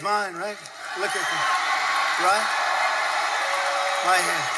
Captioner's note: audience cheering